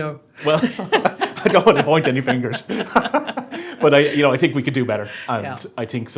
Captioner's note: laughs